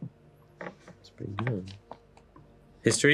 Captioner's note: mutters